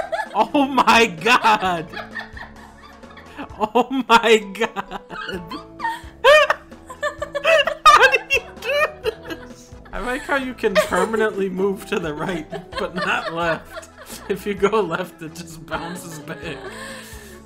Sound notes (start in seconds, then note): 2.1 laughing in the background; 4.5 laughing; 5.5 they're both laughing; 9.2 laughing